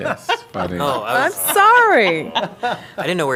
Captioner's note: laughter